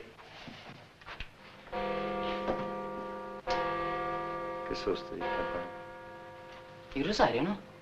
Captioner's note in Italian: rintocchi di campana